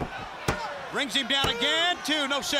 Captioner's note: crowd chatter